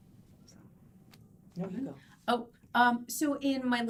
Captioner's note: none